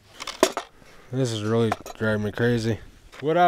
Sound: accessory clattering; box rattling

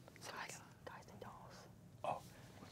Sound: whispering

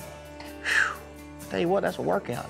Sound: exhales

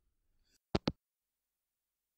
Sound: hangup

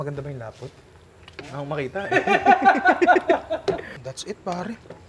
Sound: laughter

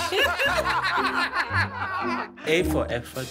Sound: laughter

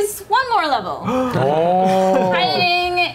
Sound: gasp

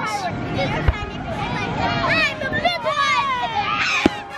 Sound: group chatter

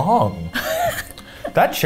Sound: laughs

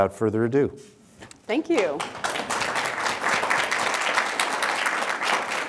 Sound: audience applause

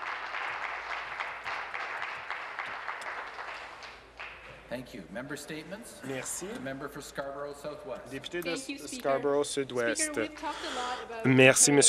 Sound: some applause

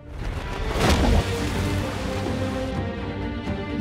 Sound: splash

